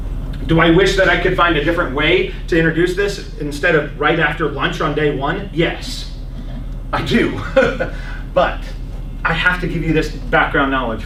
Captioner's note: laughs